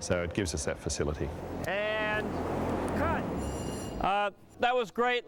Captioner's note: bell Rings